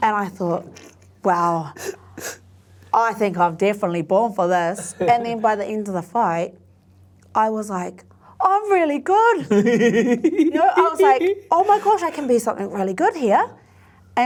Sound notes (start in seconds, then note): 9.4 giggling